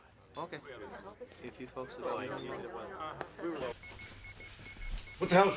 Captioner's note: guests chattering